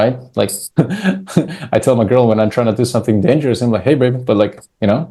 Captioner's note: laughs